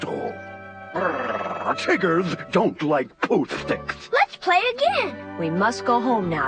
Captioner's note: growls